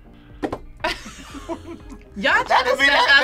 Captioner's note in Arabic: ضحك